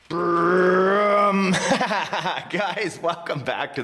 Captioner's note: laughing